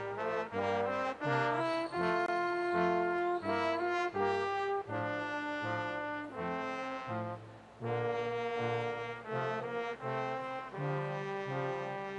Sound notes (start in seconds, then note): 1.6 audience member whistles